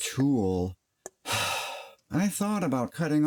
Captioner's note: sigh